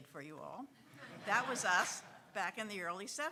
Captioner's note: audience laughing